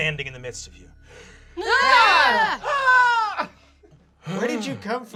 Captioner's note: everyone yells